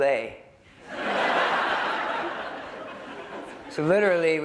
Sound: laughter

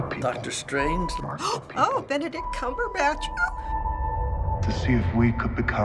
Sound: gasping

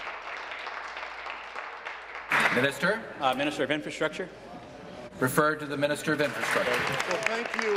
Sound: applause

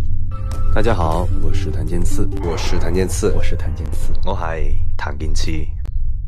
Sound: Cantonese

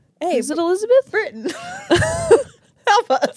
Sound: laugh

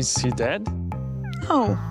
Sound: cat's meow

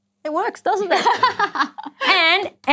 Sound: laughter

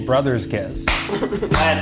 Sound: laughing

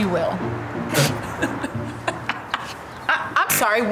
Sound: Lele laugh hysterically

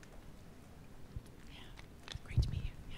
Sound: whispering

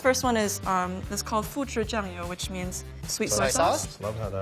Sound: foreign language

